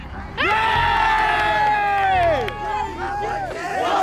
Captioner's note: cheers